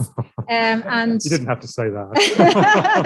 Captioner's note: laughs; everyone laughing